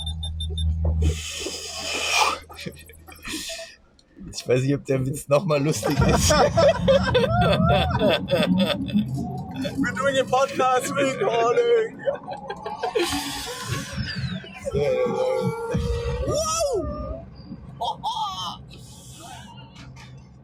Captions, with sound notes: [machine whirring] [laughs] I don't know if the joke -is funny again. [laughs] -[laughs] We're doing a podcast recording! [laughs] Whoa! Oh-oh.